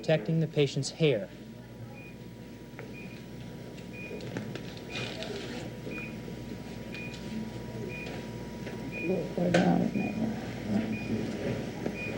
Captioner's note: heart rate monitor beeping